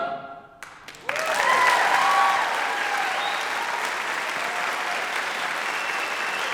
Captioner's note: audience applauds; audience cheers